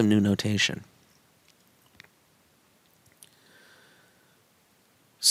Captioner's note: no Speech Detected